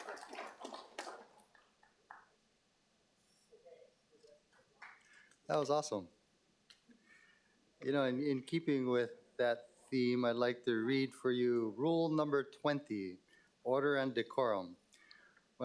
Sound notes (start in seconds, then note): 4.8 applause